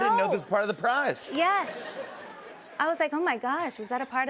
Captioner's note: laughter